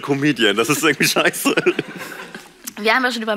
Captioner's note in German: Lachen